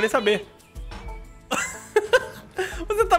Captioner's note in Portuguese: risos